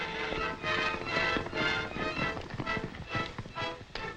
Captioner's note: horses galloping